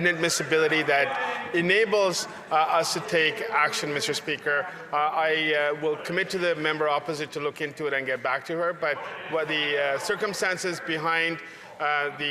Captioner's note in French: voix de l'interprète